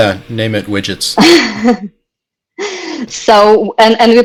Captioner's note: laughs